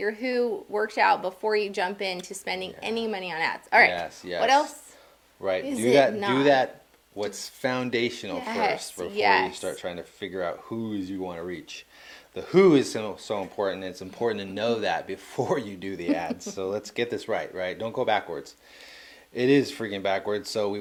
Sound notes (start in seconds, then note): 15.9 laughing